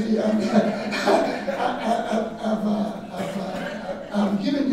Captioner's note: audience laughing